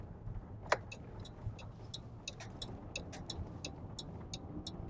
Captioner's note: blinker clicking